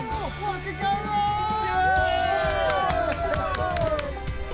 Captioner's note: cheering